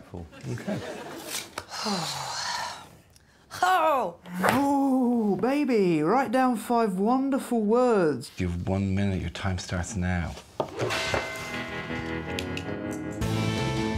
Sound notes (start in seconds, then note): 1.6 sighs in frustration